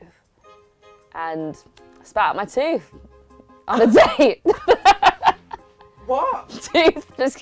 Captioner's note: laughs